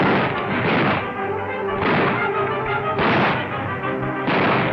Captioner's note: guns firing